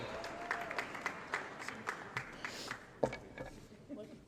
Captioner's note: applause & Cheering